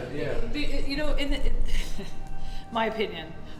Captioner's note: laughing